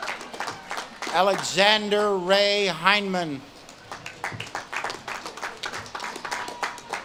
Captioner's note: audience claps and cheers